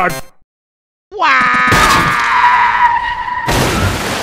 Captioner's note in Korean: 와아아아아아앙ㅇ아ㅏ아